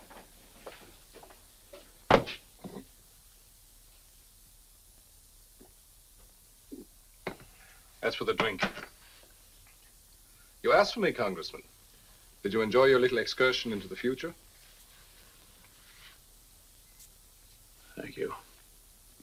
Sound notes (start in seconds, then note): 2.1 book thuds; 6.6 Ohman gulps